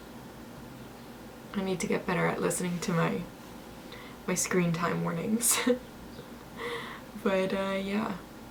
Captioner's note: giggles